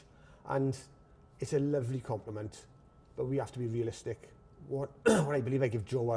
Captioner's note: clears throat